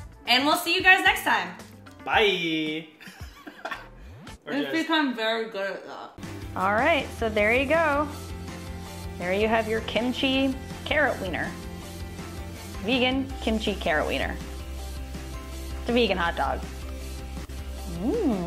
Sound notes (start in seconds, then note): 3.0 laughing